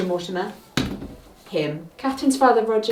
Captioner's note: pointer thuds